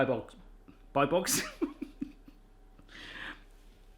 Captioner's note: laughs